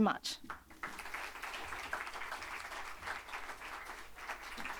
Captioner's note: audience applauding